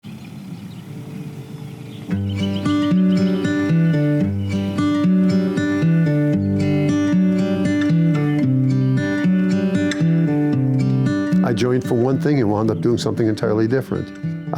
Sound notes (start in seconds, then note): 0.4 birds chirping; 0.4 gentle music; 10.6 gentle music